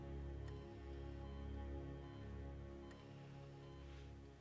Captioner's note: monitor beeping